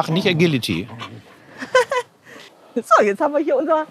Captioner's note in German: lacht